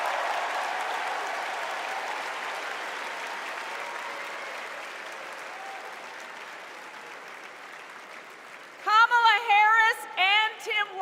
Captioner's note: cheers and applause